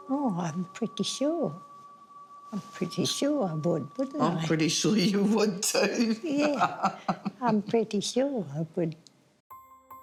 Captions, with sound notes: - Oh, I'm pretty sure. I'm pretty sure I would, wouldn't I? - I'm pretty sure you would too (laughs) - Yeah, I'm pretty sure.